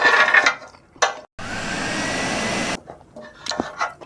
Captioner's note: vacuum cleaning